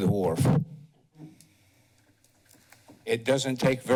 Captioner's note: pause